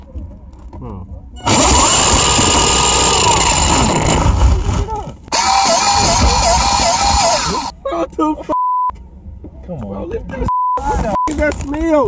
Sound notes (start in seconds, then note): 1.4 motor spinning; 10.5 beep